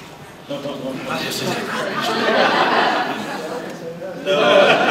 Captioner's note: laughter